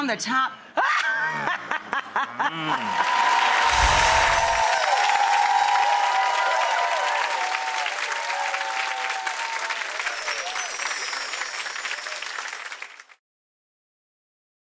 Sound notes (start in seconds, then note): 0.7 laughter and grunting; 2.7 applause; 3.6 shimmer sound effect; 8.4 applause; 8.4 shimmer sound effect